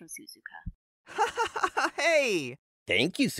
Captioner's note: giggles